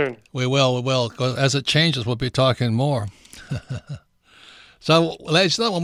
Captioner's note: laughs